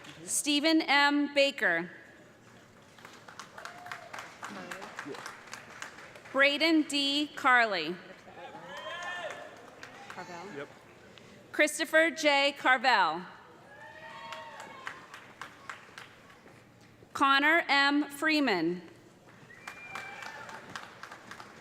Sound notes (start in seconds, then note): 2.8 applause; 13.6 cheers and applause; 19.2 applause